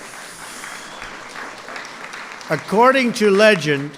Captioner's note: applause